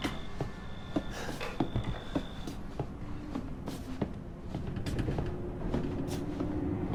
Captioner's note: footsteps pounding; heavy breathing